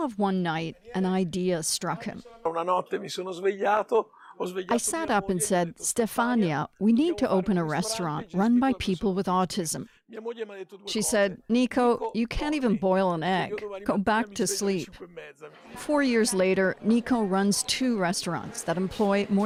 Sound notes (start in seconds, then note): 4.2 speaking Alternate Language